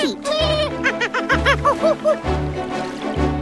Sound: monkey sounds

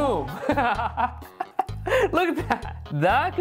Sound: laughing

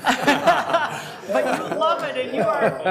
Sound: all laughing

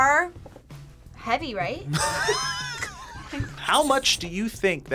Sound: laughs

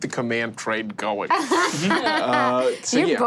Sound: laughing

